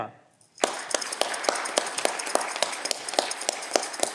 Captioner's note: audience clapping